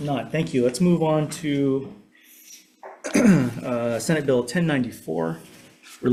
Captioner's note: clears throat